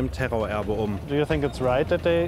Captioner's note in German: englisch